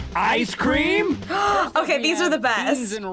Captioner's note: gasping